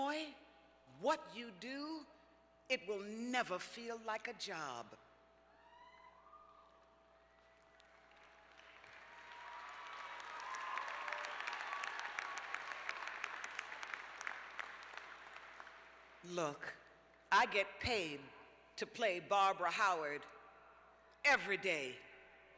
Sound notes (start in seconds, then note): 8.0 cheers; 10.5 applause